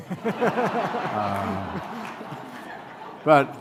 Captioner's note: laughter